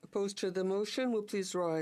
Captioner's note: speaking French